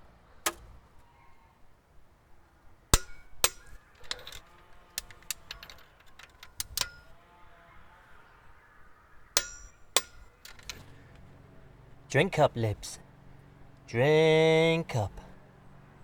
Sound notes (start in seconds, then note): 0.4 satisfying click; 2.9 torque Wrench clicks; 9.9 clicks again